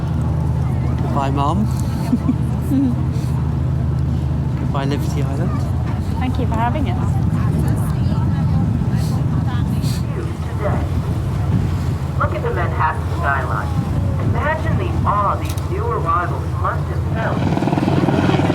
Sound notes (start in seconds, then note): 10.1 tannoy